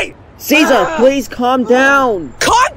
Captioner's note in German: grunzt